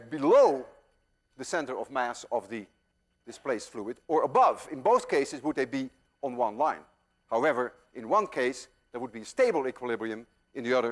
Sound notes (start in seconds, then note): none